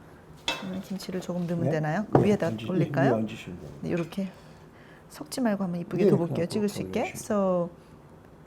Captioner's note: speaking Korean